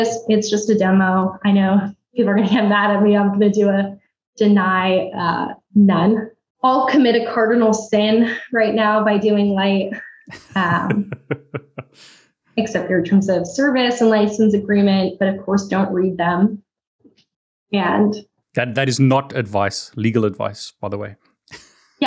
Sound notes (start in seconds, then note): 10.2 laughs; 19.2 chuckles